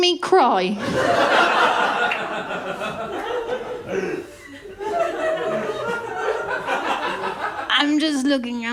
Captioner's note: laughter